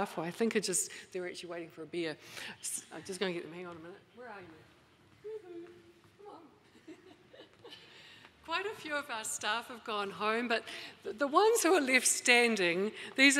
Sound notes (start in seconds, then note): 6.6 laughing